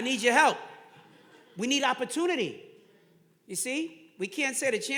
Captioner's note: audience laughing